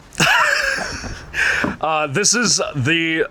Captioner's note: chuckles